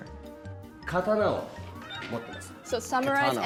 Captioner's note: speaking japanese